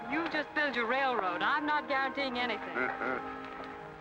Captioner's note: Cyrus chuckles